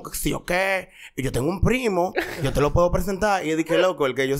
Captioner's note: laughs